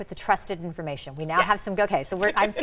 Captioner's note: laughs